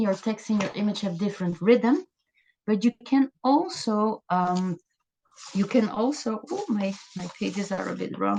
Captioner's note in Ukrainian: гортання сторінок